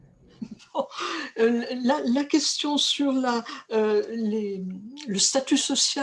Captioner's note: speaking french